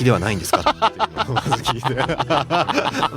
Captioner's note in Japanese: 笑い